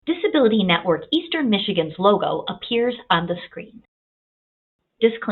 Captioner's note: voiceover; voiceover